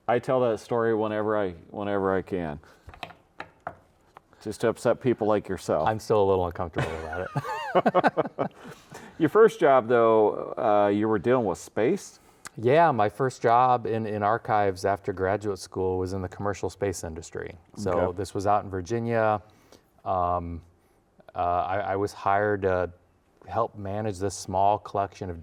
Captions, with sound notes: I tell that story whenever I can just to upset people like yourself. - I'm still a little uncomfortable about it. (both laughing) - Your first job, though, you were dealing with space? - Yeah, my first job in archives after graduate school was in the commercial space industry. - Okay. - So this was out in Virginia. I was hired to help manage this small collection